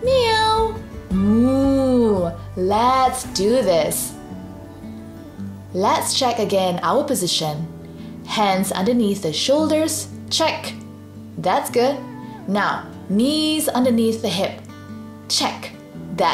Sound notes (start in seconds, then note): 0.0 meows; 1.3 moos